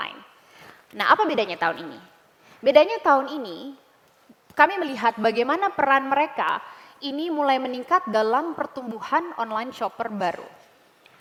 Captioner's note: non-english speech